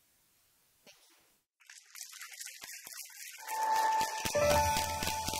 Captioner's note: applause